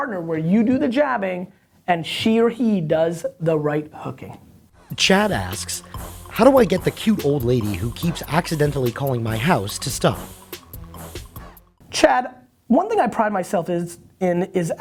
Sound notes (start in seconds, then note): 4.9 voiceover